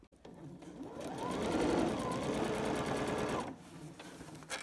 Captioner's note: sewing machine running